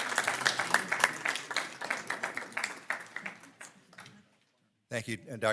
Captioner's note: audience applauding